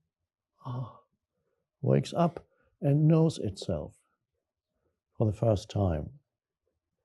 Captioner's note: sighs